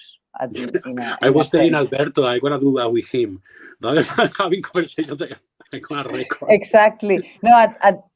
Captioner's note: laughter